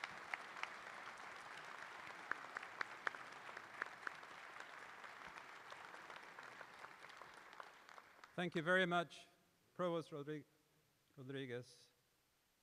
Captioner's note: applause